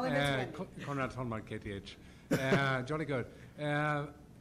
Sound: voiceover

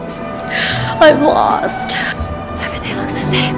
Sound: crying

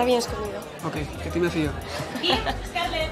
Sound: laughs

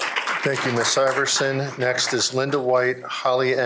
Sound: applause

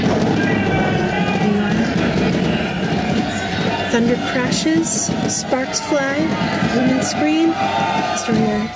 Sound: battle noises

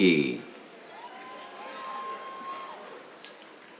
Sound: cheers

